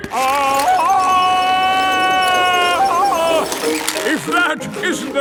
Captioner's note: yelling